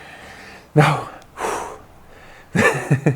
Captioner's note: exhales